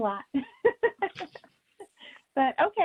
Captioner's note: laughs